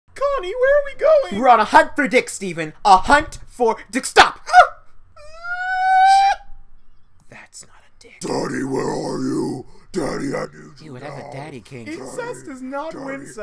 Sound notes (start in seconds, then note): 5.2 wails like a little bitch